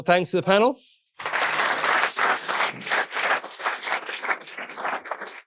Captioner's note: audience applauding